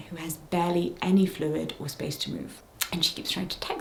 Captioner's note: none